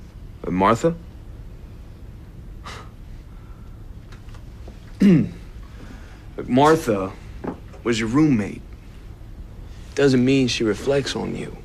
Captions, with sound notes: Martha? [scoffs] [clears throat] Look, Martha was your roommate. Doesn't mean she reflects on you.